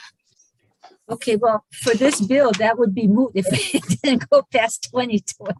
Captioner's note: laughs